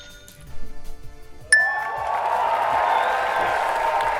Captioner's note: applause